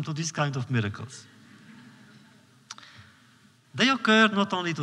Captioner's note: laughter